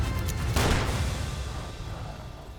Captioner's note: gunshot